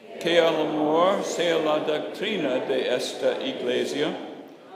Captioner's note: speaking in Spanish